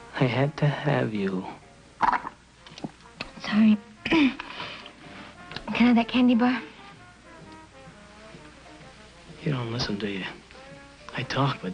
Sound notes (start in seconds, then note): 2.0 slurps